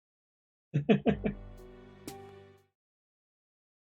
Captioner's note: chuckles